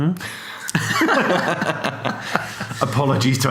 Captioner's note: laughs